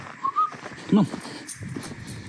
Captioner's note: whistles